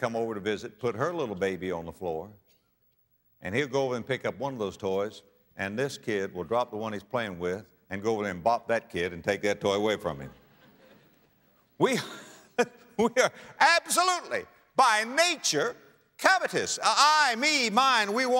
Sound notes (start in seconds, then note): 10.4 audience laughter